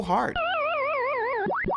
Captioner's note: game over sound